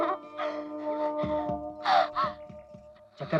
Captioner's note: panting